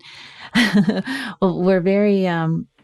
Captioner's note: chuckles